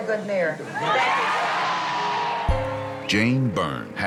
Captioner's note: crowd cheering